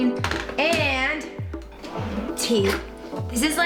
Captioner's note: cabinet opens